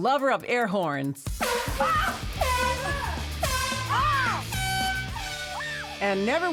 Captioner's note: horn blasts & yelling